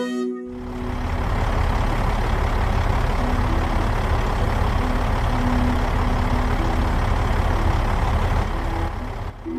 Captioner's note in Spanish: Sonido de camión xD